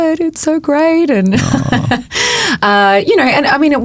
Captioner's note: chuckling